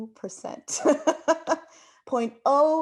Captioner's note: laughs